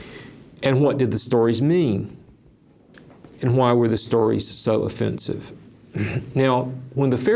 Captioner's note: clears throat